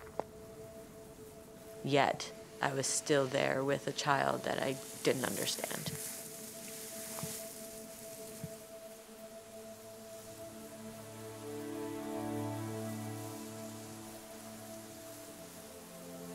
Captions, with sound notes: Yet, I was still there with a child, that I didn't understand. [grass rustling] [soft instrumental music]